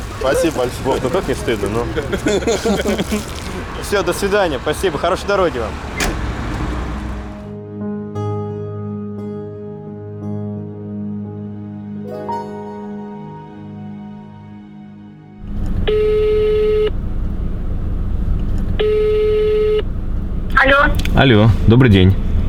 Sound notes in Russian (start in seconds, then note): 15.3 гудки телефона